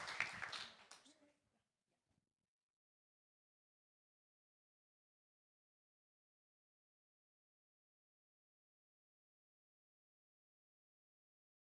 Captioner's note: applause